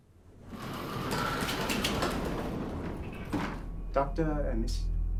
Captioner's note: door sliding